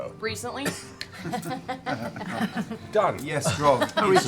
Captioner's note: laughter